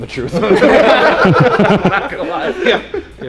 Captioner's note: laughs